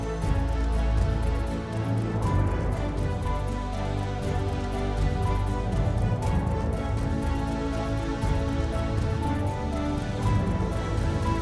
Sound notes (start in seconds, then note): 4.8 mouthing